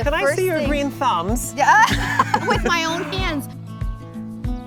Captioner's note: chuckles